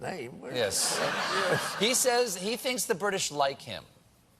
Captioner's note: laughter